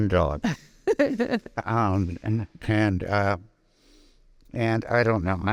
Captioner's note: laughing